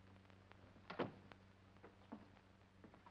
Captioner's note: door closes